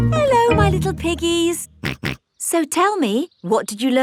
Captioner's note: snorts